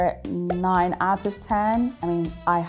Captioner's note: number pops